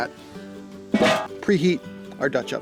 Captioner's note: lid clanks